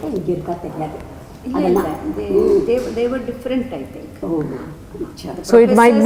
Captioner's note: in Hindi